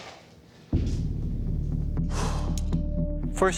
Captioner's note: sigh